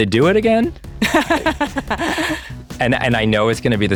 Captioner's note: laughs